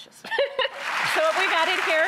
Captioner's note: laughs; audience claps